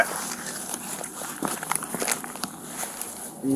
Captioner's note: crunching